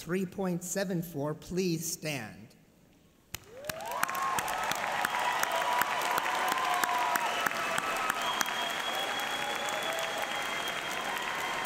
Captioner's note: applause